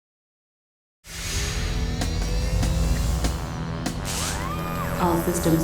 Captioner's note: ominous music; machinery whirring